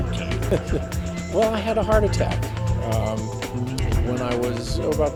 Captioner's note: laughs